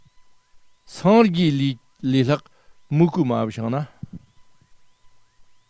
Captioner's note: tibetan